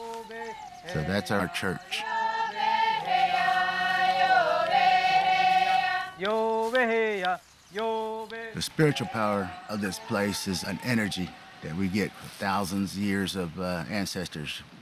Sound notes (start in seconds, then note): 2.9 chanting